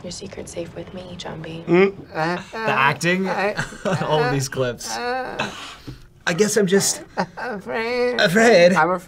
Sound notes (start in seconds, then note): 1.7 laughs